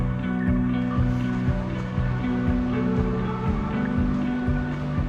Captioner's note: water rushing